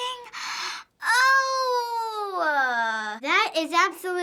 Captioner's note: gasping